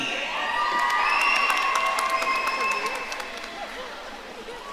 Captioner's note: audience cheering